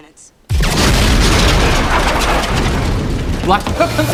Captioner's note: explosion